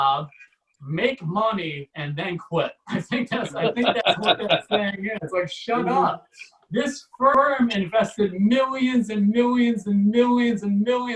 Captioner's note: audience Laughs